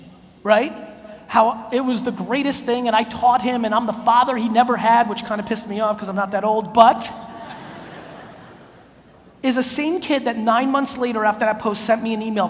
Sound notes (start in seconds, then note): 7.2 audience laughs